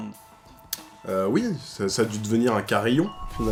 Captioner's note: windchime